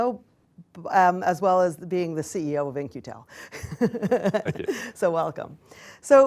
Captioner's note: laughs